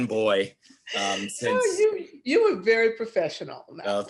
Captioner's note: laughing